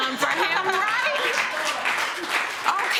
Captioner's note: laughter